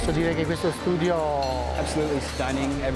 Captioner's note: speaking foreign language